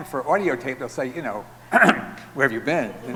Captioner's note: clearing throat